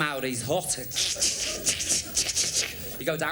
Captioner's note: imitates sparking noise